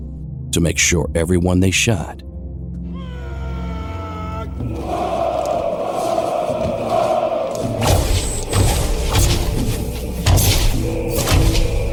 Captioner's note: army chanting, swords clashing, firing of arrows